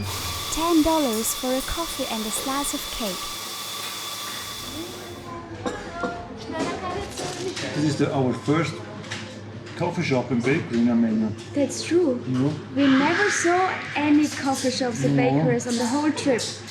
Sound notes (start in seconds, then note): 6.5 in Armenian